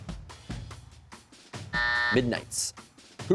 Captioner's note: buzzer sounds